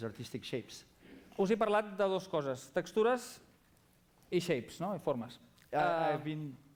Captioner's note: non-english speech